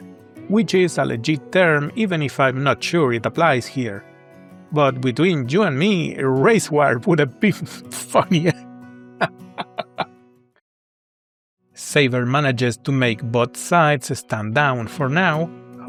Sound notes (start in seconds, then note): 9.2 cancellation laughter